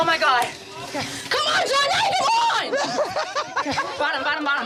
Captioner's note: all laughing